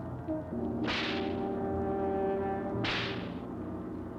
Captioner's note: whipping